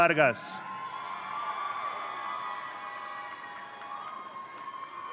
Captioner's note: audience cheering